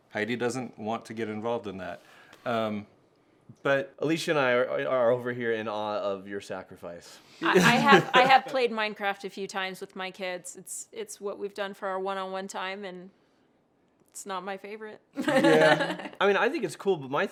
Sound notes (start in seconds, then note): 7.5 laughter; 15.2 laughs